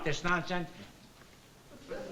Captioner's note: silent